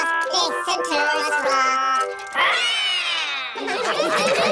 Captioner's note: all roar; all laughing